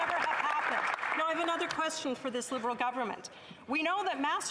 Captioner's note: some Applause